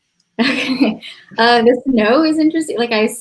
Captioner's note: laughs